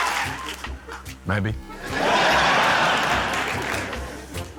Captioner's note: laughter